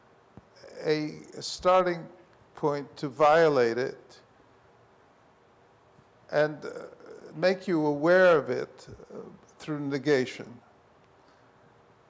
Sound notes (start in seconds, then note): none